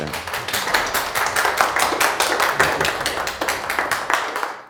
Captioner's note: audience applauding